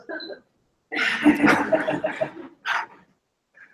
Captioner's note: laughter